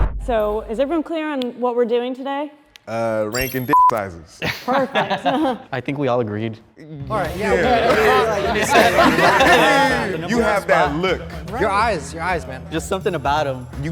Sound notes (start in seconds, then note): 3.3 beep; 4.4 group laughs; 7.2 group laughs